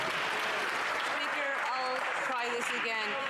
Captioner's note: some Applause